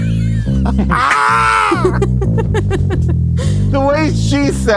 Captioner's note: all laugh